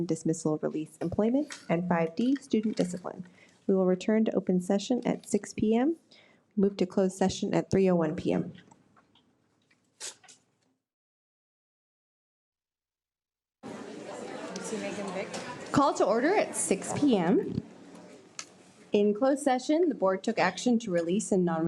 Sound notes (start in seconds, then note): 13.6 people chattering